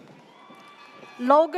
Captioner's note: audience cheers